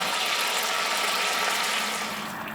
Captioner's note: sizzling sound